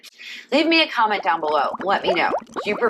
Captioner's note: bubbling